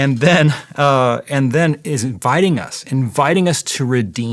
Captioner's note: laughing